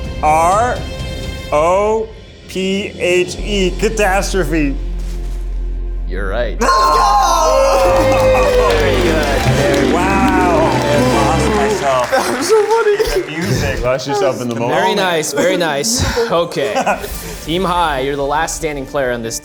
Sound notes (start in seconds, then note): 6.8 bell rings; 7.3 group cheers; 7.5 triumphant music